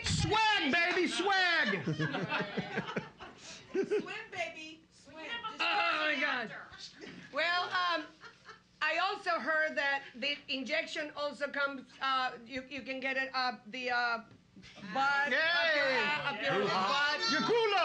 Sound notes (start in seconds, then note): 1.6 laughing; 6.5 woman mumbling